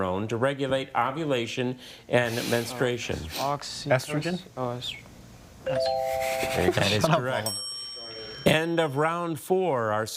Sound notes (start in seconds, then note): 6.5 laughing